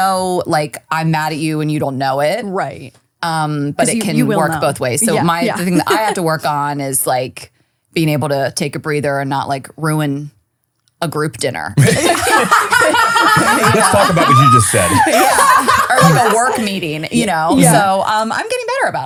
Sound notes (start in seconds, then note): 11.8 laughing